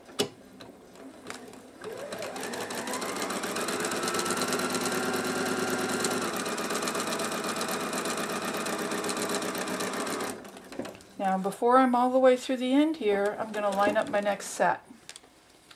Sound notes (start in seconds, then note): 1.8 sound of sewing machine